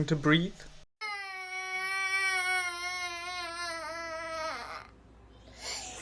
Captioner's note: crying